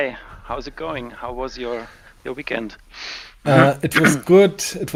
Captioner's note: clears throat